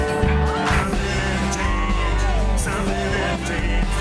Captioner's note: cheering in background